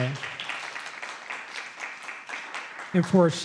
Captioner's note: audience applauds